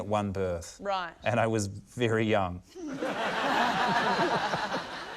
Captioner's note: laughter